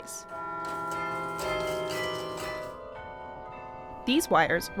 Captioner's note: bells chiming